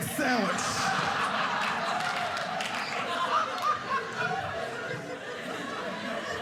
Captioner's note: audience laughing